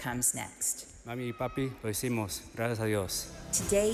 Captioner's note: student speaks in Spanish